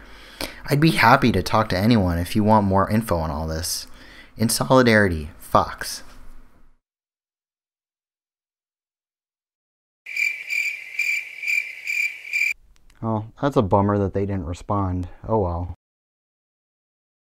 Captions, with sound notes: I'd be happy to talk to anyone if you want more info on all this. In solidarity, Fox [chirping crickets] That's a bummer that they didn't respond, oh well